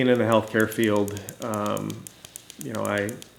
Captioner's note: toy clicking